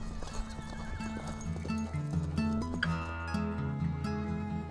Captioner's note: horse whinnies